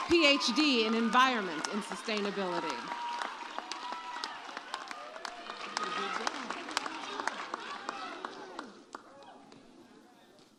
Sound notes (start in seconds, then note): 3.5 audience cheers